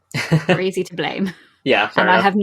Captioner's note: laughs